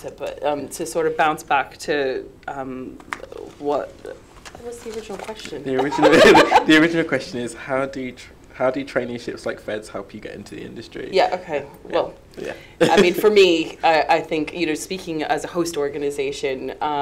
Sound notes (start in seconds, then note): 5.8 laughs